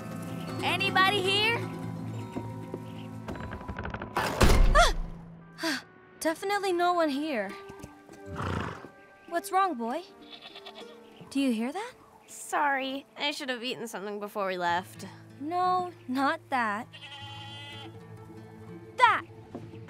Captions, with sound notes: Anybody here? [crash] Ah! Definitely no one here. [snort] What's wrong, boy? [goat bleating] Do you hear that? Sorry. I should have eaten something before we left. No, not that. [goat bleating] That.